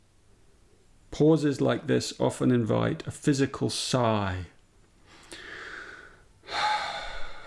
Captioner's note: sighs